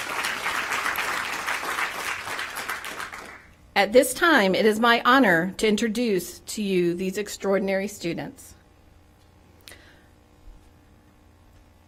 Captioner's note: applause